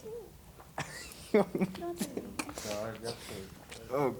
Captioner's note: chuckles